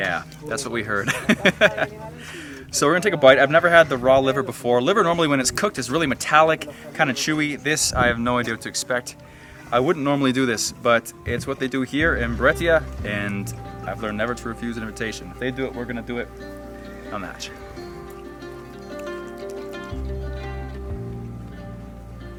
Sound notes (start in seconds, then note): 2.4 laughs; 17.7 speaking in a foreign language; 19.5 gentle music